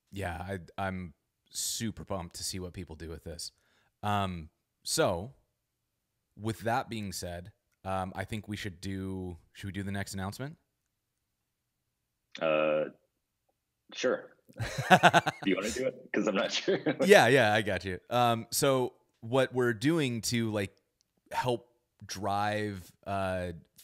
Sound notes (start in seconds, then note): 14.6 laughs